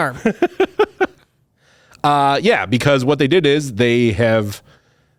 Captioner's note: laughs